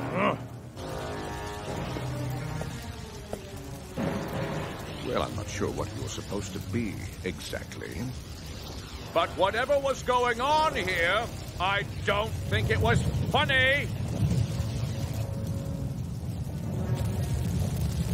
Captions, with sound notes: Well, I'm not sure what you were supposed to be, exactly, but whatever was going on here, I don't think it was funny! (Rumbling)